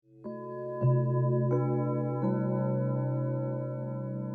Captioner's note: church bells